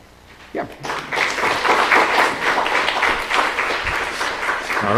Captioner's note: applause